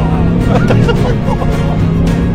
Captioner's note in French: Rires nerveux